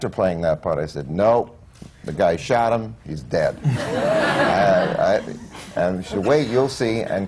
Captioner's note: laughter